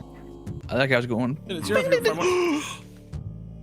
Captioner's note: gasps